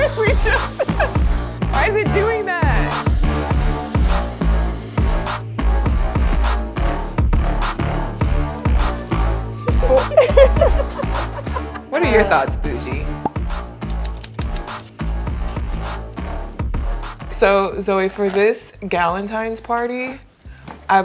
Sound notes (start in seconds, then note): 3.6 upbeat music; 9.6 both laughing; 14.0 typewriter clicking